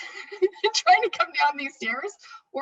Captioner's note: laughs